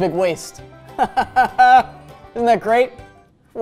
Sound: chuckles awkwardly

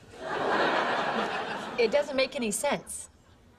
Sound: laugh

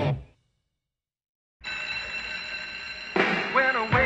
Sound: school bell rings

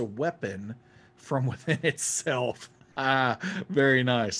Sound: laughing

